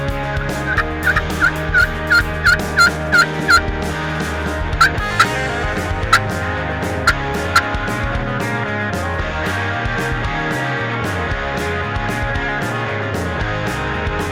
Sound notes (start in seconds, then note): 0.6 imitating turkey call; 9.6 upbeat guitar and snare drum music